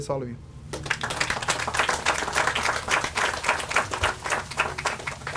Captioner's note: audience applauds